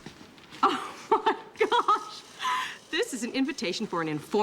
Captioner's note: laughing